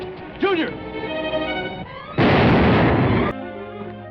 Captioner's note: explosion